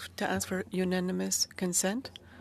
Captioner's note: speaking French